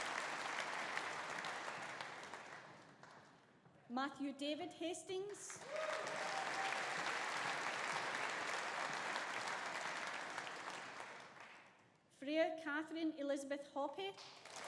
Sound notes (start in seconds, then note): 5.6 audience applauding; 5.6 audience cheering